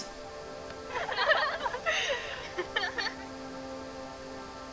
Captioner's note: girls giggling